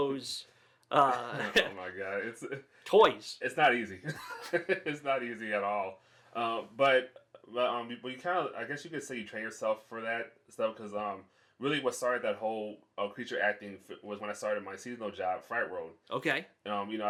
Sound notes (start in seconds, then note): 1.0 chuckling; 4.0 laughs